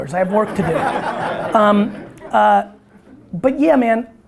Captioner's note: audience laughter